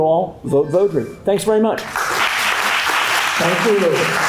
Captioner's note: applause